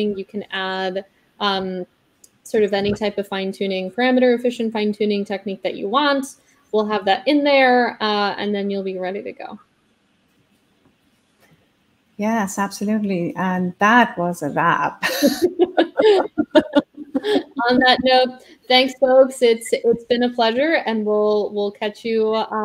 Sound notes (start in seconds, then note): 15.0 both laughing